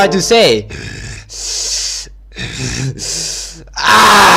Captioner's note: breaths alot of air